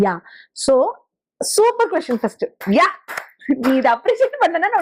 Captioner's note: claps